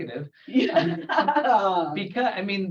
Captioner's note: both laugh